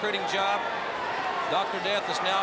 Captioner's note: crowd chatter